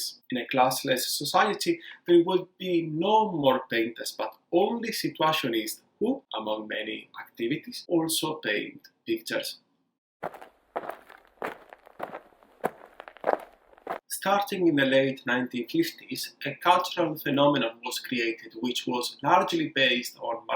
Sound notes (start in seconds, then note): 10.2 steady footsteps